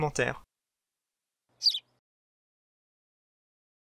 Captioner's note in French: chant d’oiseau